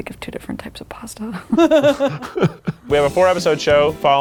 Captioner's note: people laughing